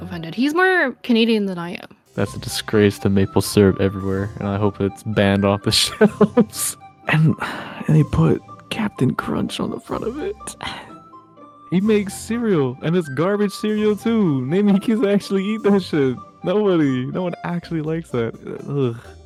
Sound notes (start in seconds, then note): 7.3 sigh